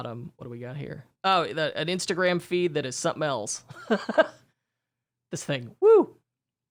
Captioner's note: laughs